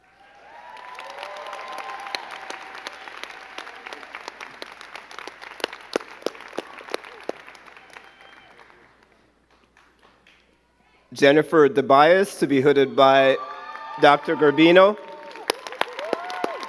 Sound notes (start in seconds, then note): 0.8 crowd cheering and clapping